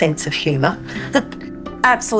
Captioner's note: laughs